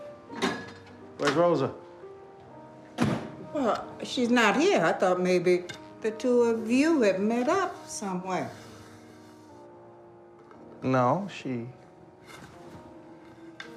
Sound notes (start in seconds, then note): none